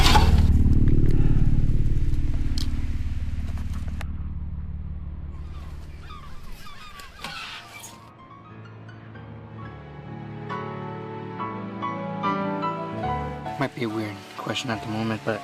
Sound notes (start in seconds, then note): 0.0 air quavering; 5.3 gulls squawking